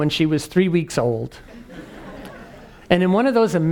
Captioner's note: laugh